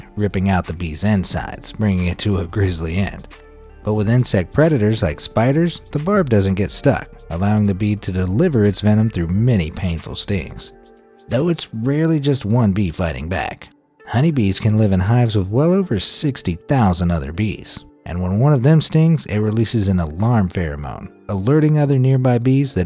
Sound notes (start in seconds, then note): none